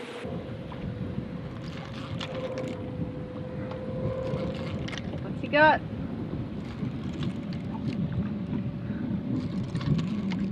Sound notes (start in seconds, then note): 0.4 boat engine whirring; 2.1 fishing rod reeling